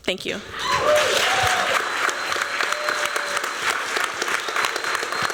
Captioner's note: applause